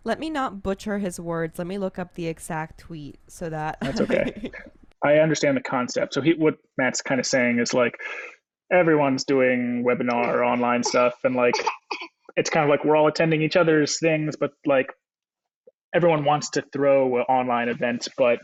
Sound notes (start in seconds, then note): 3.8 laughs; 12.2 coughs